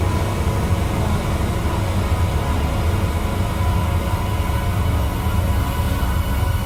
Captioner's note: mechanical lift continues whirring